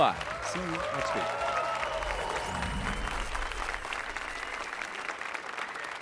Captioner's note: applause and cheers